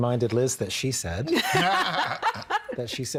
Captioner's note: all laughing